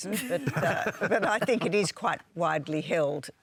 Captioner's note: laughter